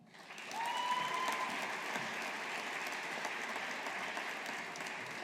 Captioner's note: audience applauding